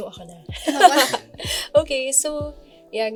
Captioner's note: laughs